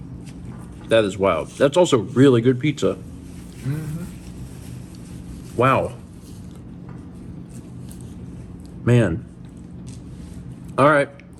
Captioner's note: laughs